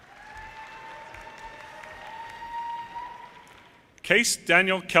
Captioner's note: audience cheers and applause